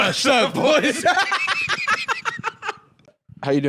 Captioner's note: both laughing